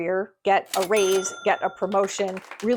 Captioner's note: cash register chimes